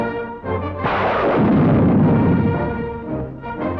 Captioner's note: upbeat band music; gunshot